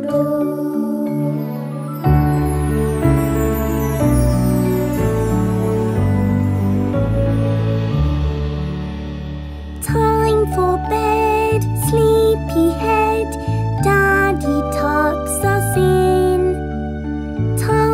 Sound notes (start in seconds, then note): none